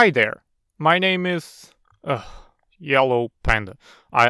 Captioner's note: sighs